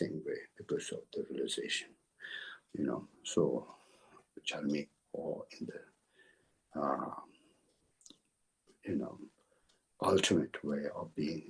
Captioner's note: tibetan